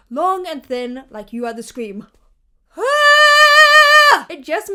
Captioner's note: vocalizes